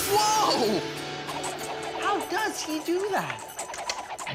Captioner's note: pop